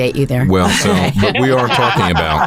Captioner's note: laughing